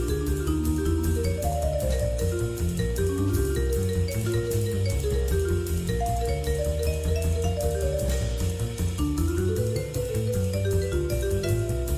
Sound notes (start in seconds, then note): none